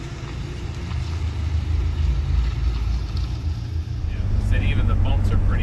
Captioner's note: car engine starting